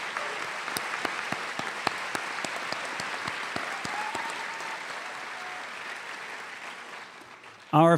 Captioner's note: cheers and applause